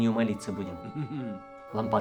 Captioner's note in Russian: усмешка